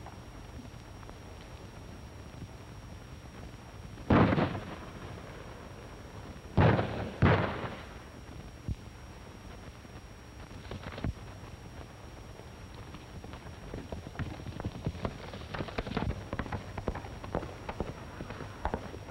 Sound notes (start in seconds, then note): 2.2 gunshots